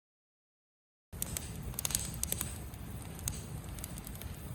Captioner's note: fire crackling